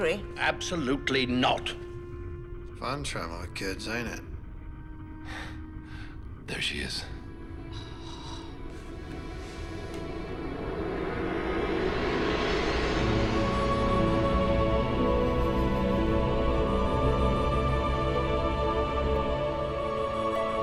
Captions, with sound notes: Absolutely not. Fun traveling with kids, ain't it? [sighs] There she is.